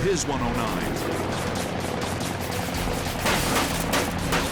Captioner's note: guns firing